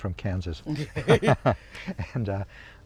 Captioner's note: both laugh